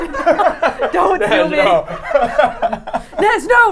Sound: all laughing

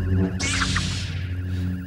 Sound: zap!

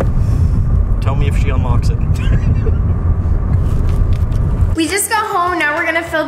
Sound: laughs

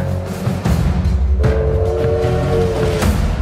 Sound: whistle blows

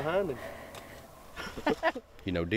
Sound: laughing

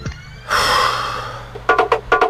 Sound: exhales

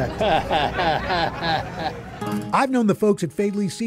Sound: chuckles

